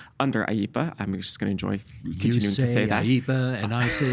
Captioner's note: sing-song